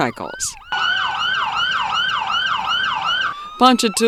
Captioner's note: motorcycle siren